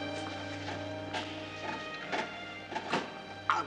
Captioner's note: metallic clanking